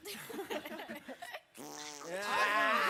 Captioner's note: speaks in Spanish; performers laughing; performer farts; performers laughs